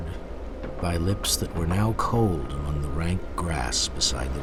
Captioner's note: voiceover